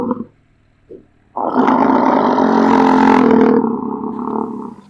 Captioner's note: bison roar